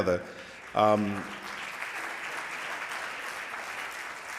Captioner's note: applause